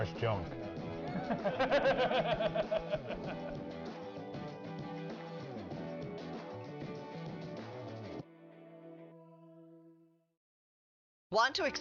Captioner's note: laughter